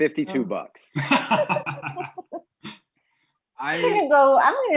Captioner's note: laughing